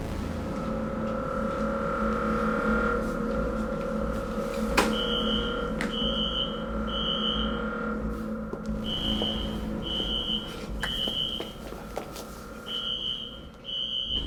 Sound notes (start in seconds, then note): 0.3 tense music; 5.6 alarm screeching